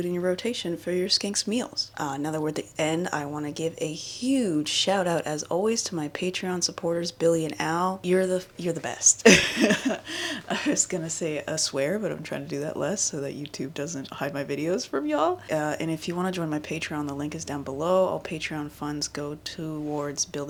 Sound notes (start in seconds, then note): 9.2 laughs